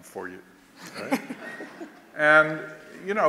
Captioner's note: laughter